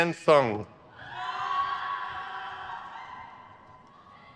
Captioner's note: crowd cheers